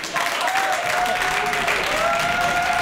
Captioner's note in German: Applaus